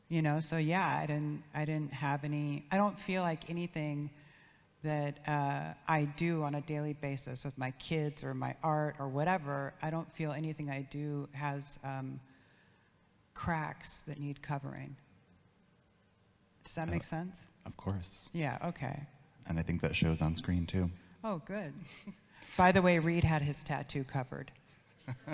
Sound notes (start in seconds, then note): 21.8 giggles; 25.1 interviewer and audience laugh